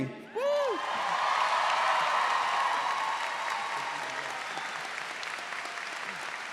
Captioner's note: audience applauds